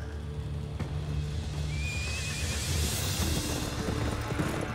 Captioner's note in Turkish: At kişniyor